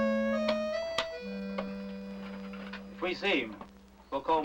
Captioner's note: buttons clicking